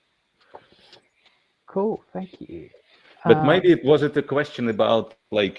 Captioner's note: laughing